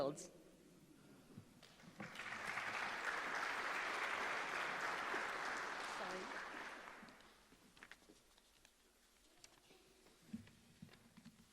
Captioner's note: applause